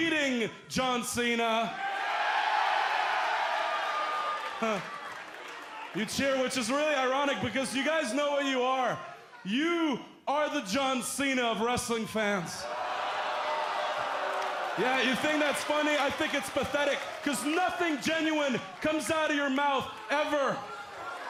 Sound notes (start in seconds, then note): 1.7 cheers and applause